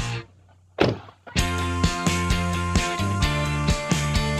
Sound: car door closing; upbeat music

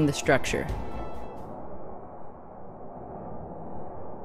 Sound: wind blowing

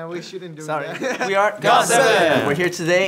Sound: laughing

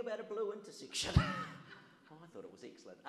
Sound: audience laughs

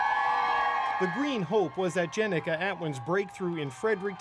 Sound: cheers and Applause

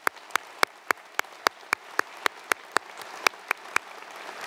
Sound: applause

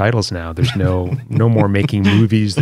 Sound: laughter

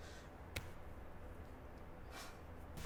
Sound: sighing in despair

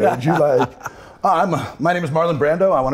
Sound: Michael laughs

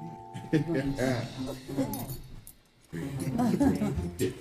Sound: chuckles

